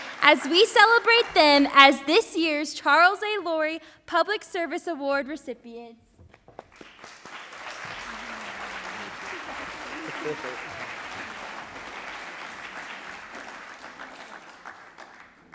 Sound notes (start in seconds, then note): 7.2 audience applauds